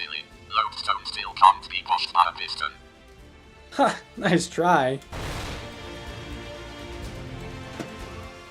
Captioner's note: boom